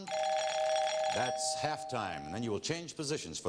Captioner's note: bell rings